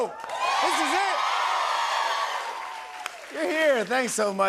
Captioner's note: cheers and applause